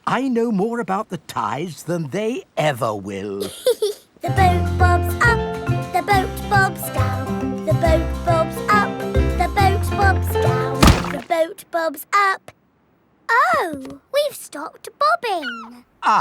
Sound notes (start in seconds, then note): 3.4 giggles; 10.8 thuds